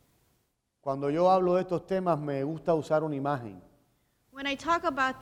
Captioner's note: speaking in Spanish